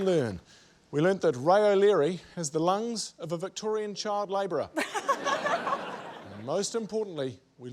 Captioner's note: laughter